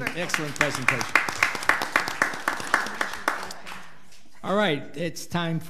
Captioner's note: audience clapping